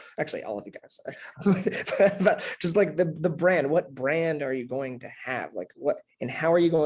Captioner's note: laugh